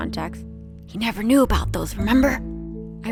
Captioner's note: whispers